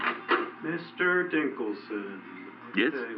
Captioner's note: door opens